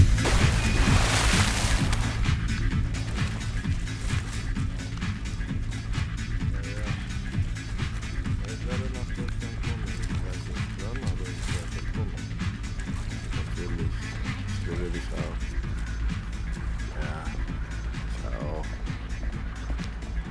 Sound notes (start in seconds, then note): 0.1 lively electronic music; 6.9 speaking in a foreign language